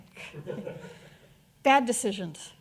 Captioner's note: audience laughing